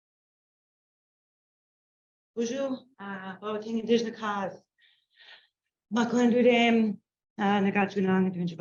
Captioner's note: speaking Anishinaabe